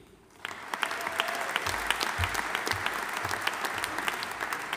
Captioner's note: audience applauding